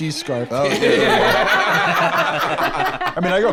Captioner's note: all laughing